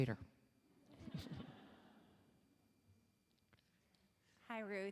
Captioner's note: audience laughing